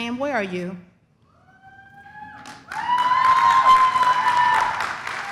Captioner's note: audience cheers